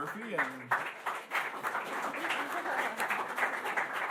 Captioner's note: applause; laughing